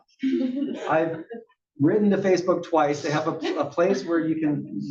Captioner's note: laugh